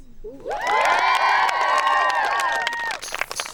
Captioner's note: campers applauding; playful vibrant music